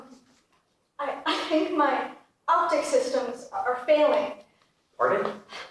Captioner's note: giggling